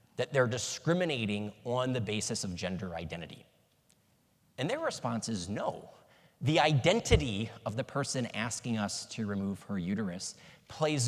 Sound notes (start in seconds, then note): none